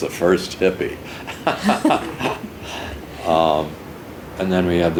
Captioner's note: laughing